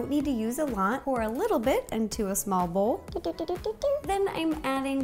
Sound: doot doots

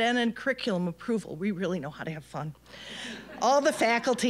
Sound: audience laughing

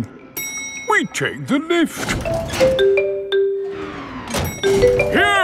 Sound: elevator dings

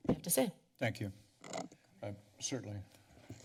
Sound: mic noise

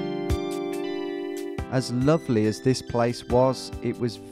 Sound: voiceover

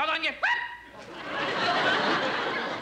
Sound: yelp

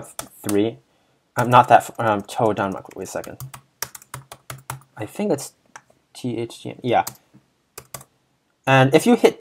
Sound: typing and frantic backspacing

